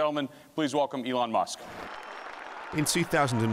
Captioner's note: audience applauding